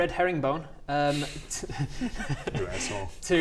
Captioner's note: laughs in troll